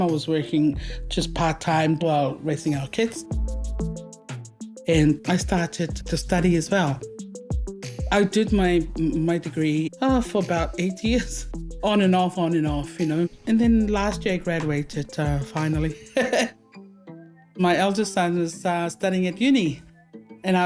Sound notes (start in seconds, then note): 15.9 chuckles